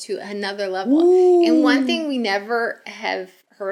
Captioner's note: cheers